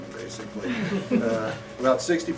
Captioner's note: laughter